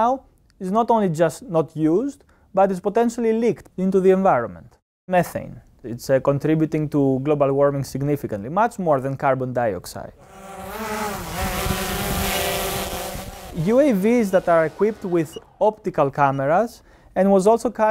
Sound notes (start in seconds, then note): 10.2 drone flying